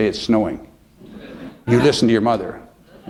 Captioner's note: laughter